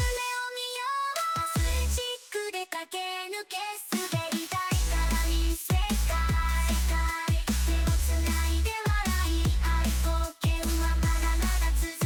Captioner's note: clap